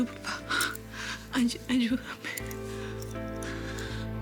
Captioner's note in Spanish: Solloza